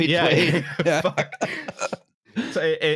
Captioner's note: laughter